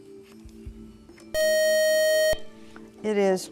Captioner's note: buzzer